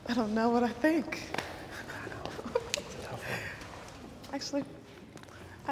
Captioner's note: laughs